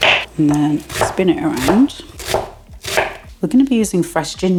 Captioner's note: chop chop chop